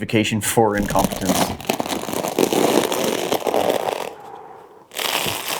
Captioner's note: satisfying Crunch